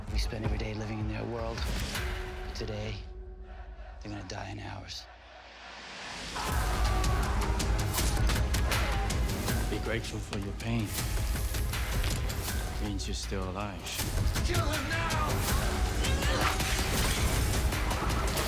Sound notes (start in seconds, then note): 6.4 all yelling; 6.4 dramatic music; 15.5 dramatic music